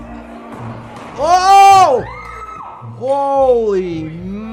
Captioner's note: person screams